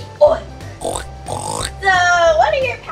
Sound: pig oinking

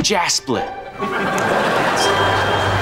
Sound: laughing

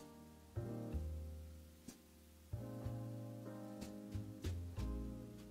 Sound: none

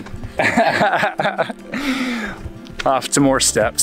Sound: laughing

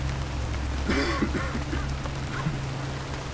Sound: Bob coughs

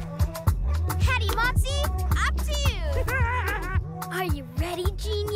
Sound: giggles

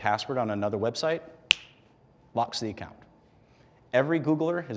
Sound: snap

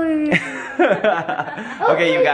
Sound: laughing

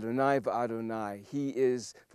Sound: speaking Hebrew

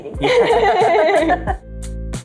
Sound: both laugh; light upbeat music

